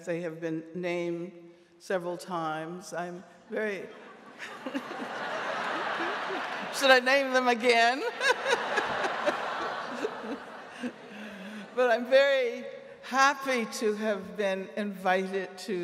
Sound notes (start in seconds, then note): 3.9 audience laughing; 9.2 laughs